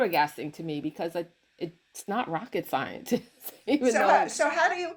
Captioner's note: laughs